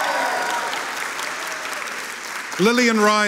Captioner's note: audience cheering and applauding